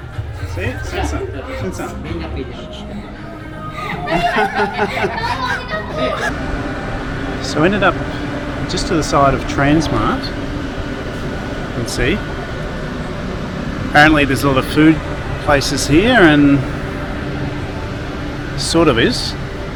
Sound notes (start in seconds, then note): 5.0 laughing